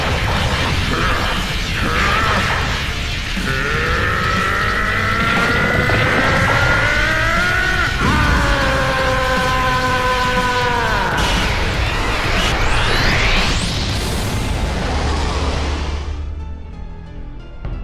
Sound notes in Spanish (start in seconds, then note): 1.0 Gruñidos; 3.4 Gritos